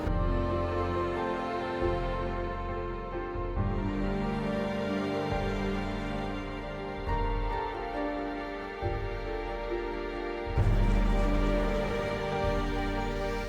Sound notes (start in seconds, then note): none